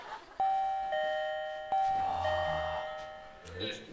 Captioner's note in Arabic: جرس الباب